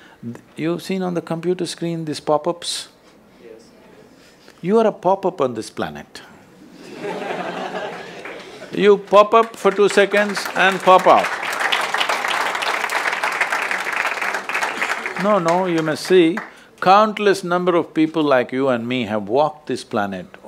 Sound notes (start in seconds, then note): 6.7 laughter; 13.4 applause